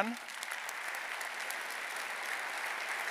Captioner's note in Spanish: aplausos